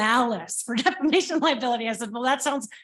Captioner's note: chuckles